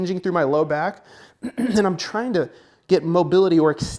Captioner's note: clearing throat